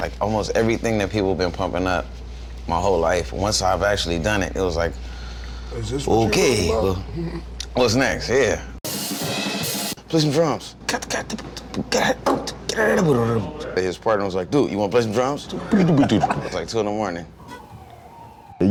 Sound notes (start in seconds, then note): 7.4 chuckles; 11.1 drum noises; 15.8 drum noises